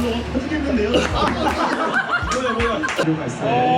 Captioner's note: laughs